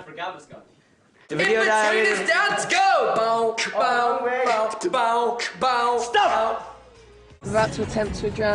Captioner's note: some hardcore beat-boxing